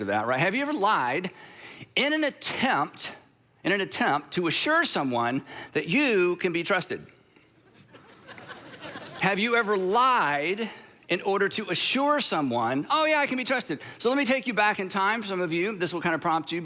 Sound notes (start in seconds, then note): 7.6 congregation laughing